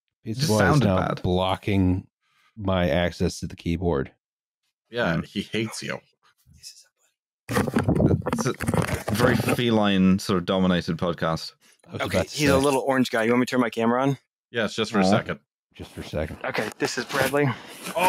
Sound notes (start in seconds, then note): 6.5 whispering, indistinct; 7.5 fumbling against microphone